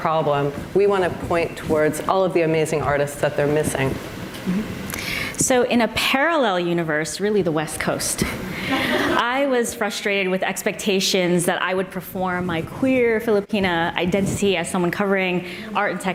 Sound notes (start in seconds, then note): 8.6 audience laughs